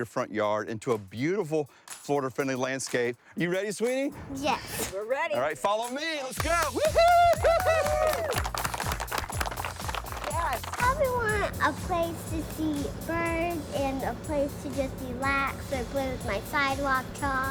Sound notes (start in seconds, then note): 6.3 cheering and applauding